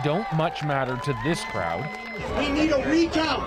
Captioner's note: cheers and Applause